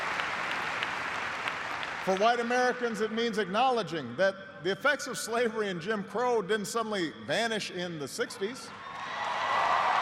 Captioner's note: applause